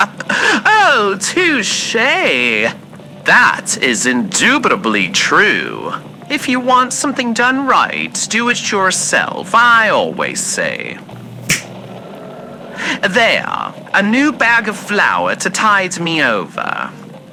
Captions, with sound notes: Oh, touché! That is indubitably true! If you want something done right, do it yourself, I always say. (summoning snap fx) There, a new bag of flour to tide me over.